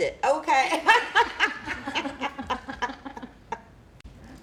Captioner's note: laughter